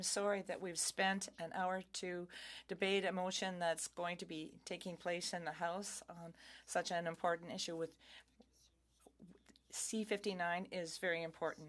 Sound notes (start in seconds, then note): 3.7 speaking French